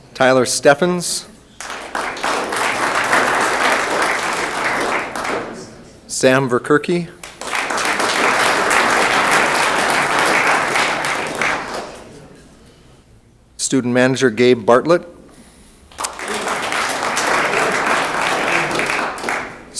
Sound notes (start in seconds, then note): 1.3 room applauds; 15.8 room applauds